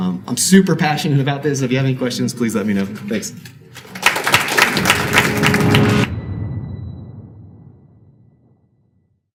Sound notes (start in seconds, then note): 3.6 audience clapping; 4.6 dramatic music